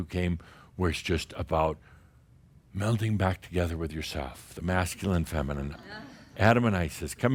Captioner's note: some chuckles